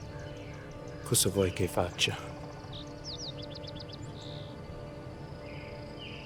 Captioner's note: Lou speaking in Italian